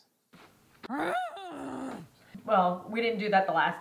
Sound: groan

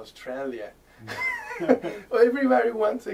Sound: laughter

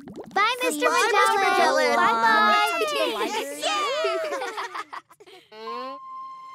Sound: students chattering

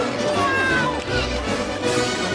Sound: screaming

